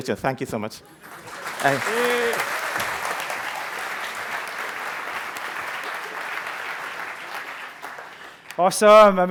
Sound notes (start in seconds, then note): 1.4 applause